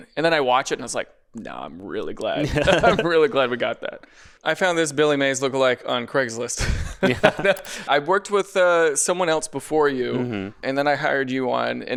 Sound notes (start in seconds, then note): 2.4 pair laughs; 6.6 laughs